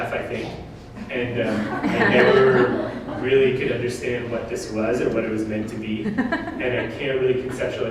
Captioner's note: audience: Laughter